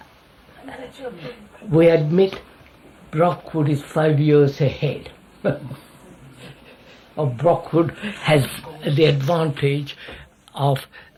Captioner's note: laughs